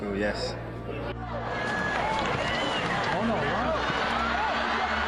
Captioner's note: crowd cheering